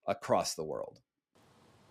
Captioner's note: silence